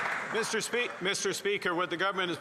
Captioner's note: some Applause